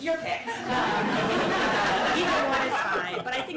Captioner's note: laughter